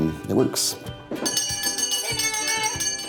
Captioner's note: bell ringing